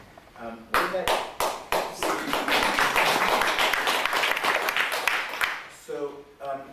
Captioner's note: audience applauding